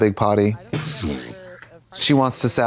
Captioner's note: Katya splutters